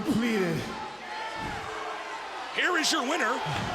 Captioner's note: crowd cheering